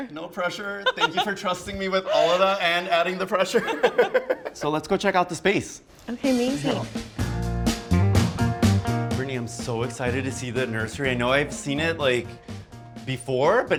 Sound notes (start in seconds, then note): 0.8 laughs; 3.5 both laugh; 6.2 bright music plays